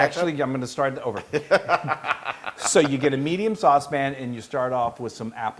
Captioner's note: laugh